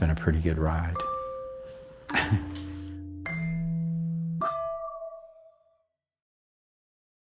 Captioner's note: abstract music; laughing